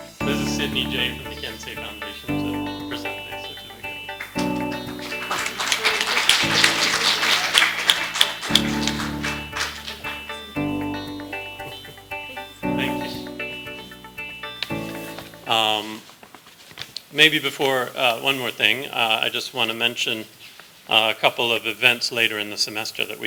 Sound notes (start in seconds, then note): 0.0 music and applause; 4.1 applause